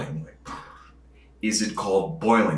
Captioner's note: breath blowing